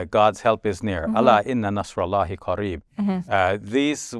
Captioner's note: speaking Arabic